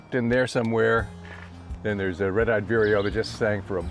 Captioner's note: bird twittering